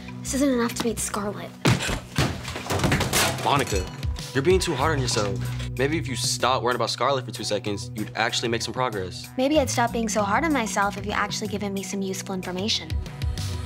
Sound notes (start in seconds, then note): 1.7 equipment clatters